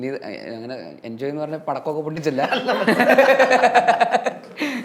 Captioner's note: laughs